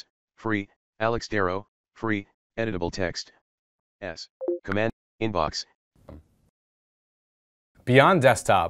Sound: beep

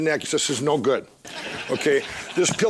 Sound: audience laughs

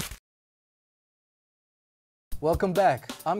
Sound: paper rips

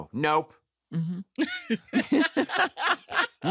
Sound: laughter

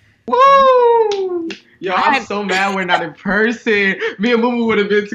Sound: claps

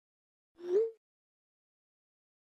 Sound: ping

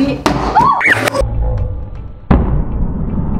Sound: screaming

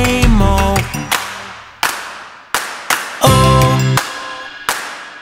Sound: claps four times

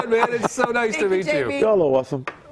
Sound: laughter

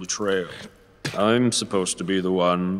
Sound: spits

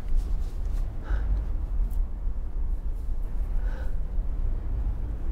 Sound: taking slow breaths

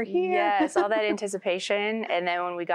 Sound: giggling

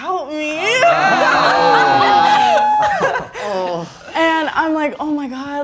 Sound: all expressing exasperation

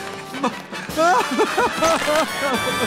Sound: crying

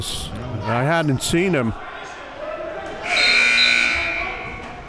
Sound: buzzer dings

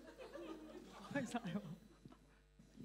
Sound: Cantonese

